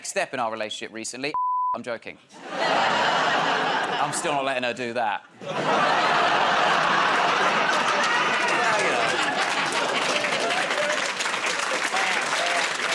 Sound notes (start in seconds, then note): 5.3 laughter; 11.8 applause